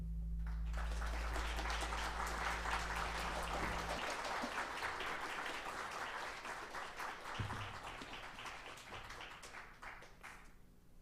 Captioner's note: applause